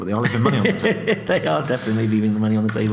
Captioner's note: laughing